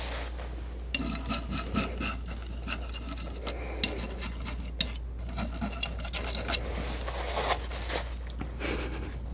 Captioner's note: scratching